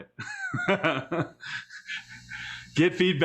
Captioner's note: laughs